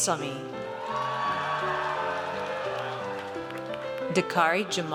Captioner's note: audience cheers